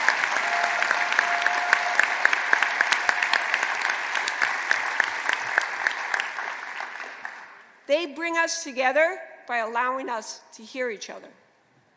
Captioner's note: applause